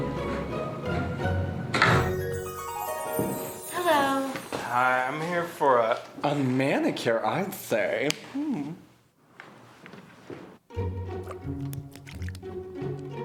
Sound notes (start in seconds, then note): 1.7 door slam